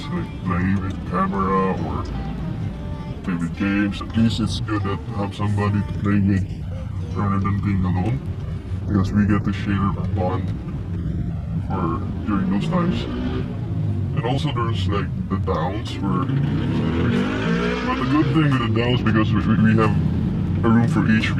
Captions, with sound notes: like play with camera or play with games. At list it's good to have somebody to play with rather than being alone because we get to share a bond during those times. (motorcycle engine roaring) And also those like the downs but the good thing with the downs because we have room for each